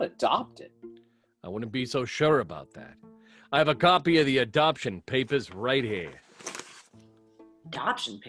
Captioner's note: paper rustling